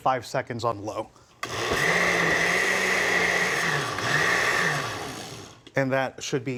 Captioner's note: blender whirring intermittently